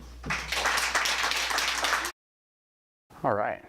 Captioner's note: applause